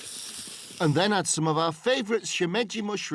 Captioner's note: sizzling